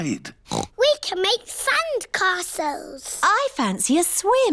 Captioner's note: oinks